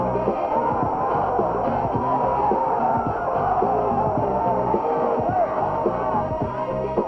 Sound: cheering

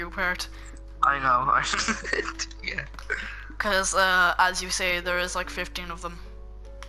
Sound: starts Laughing

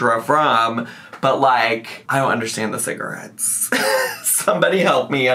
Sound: laughs

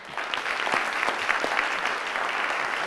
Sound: audience clapping

